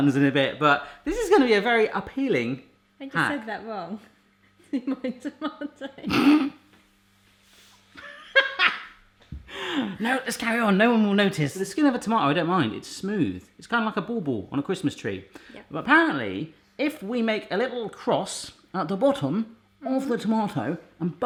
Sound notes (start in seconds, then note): 6.1 snorts; 8.4 laughs